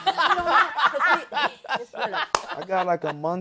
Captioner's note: laughter